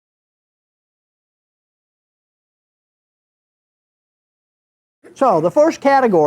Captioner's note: silence